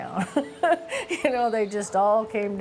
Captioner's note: chuckles